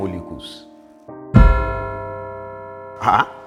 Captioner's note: bell rings